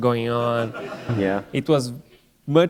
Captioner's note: laughter